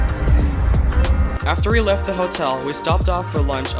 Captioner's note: voiceover